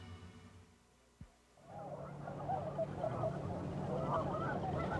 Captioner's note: swans trumpeting deep "oh-OH" call